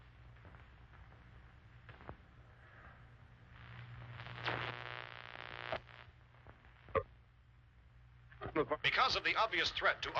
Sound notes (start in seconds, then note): 2.8 static; 3.6 radio tuning